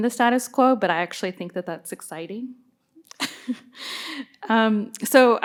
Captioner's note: laughs